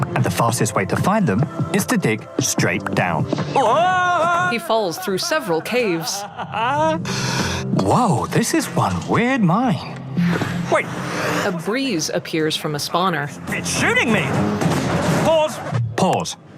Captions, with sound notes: And the fastest way to find them is to dig straight down. [Echoing screams] [Screams turn to laughter] Whoa! This is one weird mine. Wait. What's happening? It's shooting me! Pause, pause.